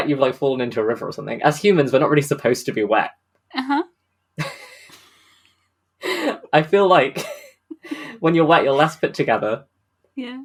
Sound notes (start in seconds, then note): 4.4 laughing